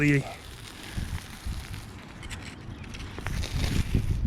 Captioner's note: tearing